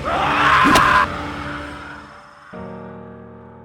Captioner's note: screaming; suspenseful music; dramatic music